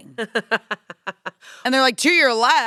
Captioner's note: laughs